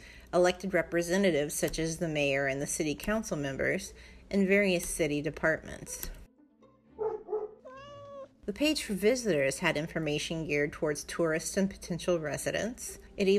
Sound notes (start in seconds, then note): 7.0 dog barking, cat meowing